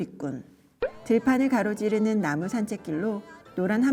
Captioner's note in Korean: 뿅! - 효과음